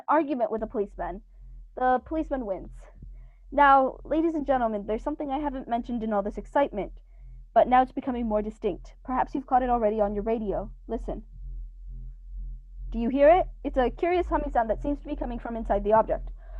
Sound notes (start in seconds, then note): 1.7 faint humming sound begins; 11.4 humming sound cont'd